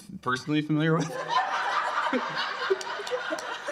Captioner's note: laughter